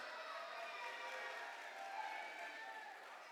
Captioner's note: cheers and applause